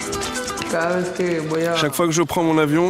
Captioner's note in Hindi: स्पैनिश बोलते हुए